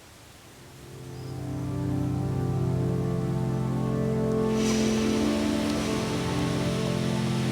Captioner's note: gentle music; crickets chirping